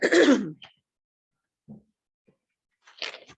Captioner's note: clears throat